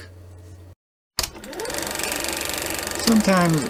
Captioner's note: projector sound